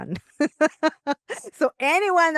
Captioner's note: laughs